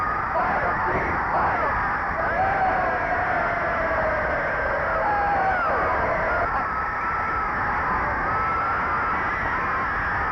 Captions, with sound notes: - [Crowd] Fight, team, fight! Yay! (crowd cheering)